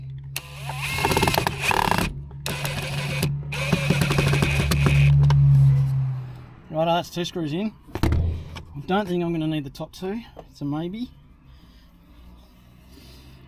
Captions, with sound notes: (drill whirring) Right, that's two screws in. Don't think I'm gonna need the top two, so maybe.